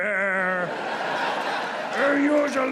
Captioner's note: audience laughs